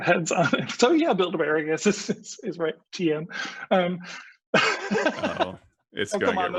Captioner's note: laughs